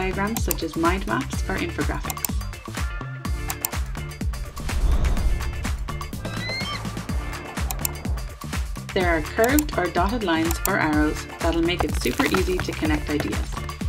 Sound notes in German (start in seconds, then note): 2.0 Klicken; 6.2 Geierschrei